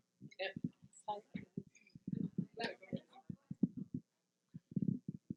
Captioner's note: murmuring